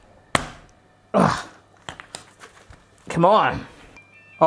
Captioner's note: grunting